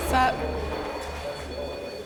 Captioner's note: beeping